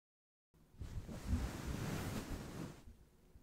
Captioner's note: brushing sound